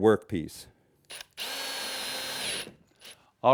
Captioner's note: drill